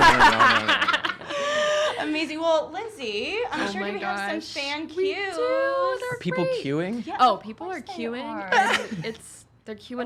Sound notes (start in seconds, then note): 0.0 laughter